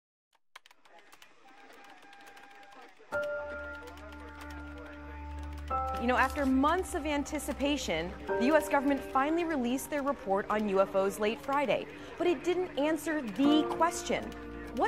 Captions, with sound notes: (keyboard keys clacking) (gentle music) - You know, after months of anticipation, the US government finally released their report on UFOs late Friday. But it didn't answer the question.